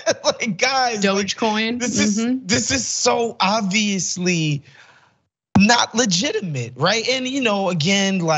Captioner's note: laugh